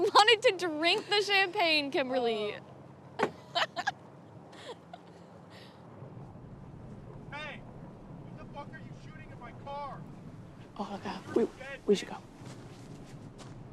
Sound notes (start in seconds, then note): 3.3 Bethany laughs